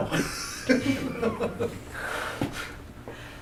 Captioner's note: laughter